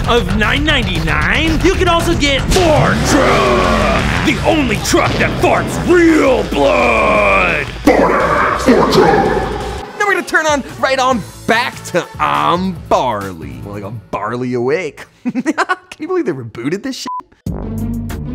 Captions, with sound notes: of $9.99, you can also get the Fart Truck. The only truck that farts real blood! Fart Ass. Fart Truck. Now we're gonna turn on, right on back to "I'm Barly," more like I'm barley awake. Can you believe they rebooted this (beep).